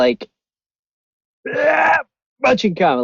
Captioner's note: grunts